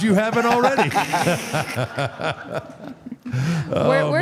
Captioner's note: AJ and Mark laughs